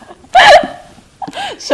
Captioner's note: laughs